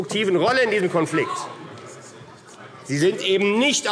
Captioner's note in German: Zuruf